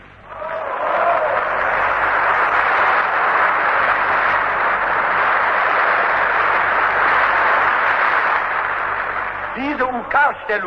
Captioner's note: applause